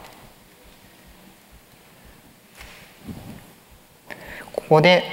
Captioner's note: silence